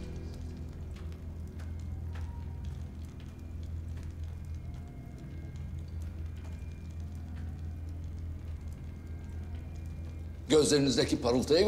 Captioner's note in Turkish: Isırma sesi; Ateş çıtırtısı sesleri